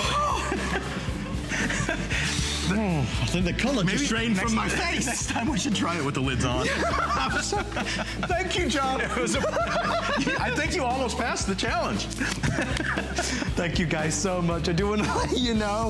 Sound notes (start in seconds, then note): 0.3 laughter; 9.1 laughter; 12.1 laugh